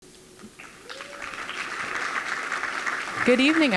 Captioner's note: applause